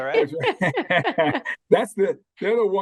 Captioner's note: laughing